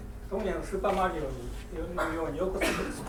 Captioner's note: speaking in foreign language; coughing